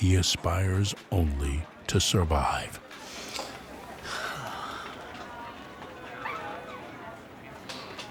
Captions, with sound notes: He aspires only to survive. (exhales deeply)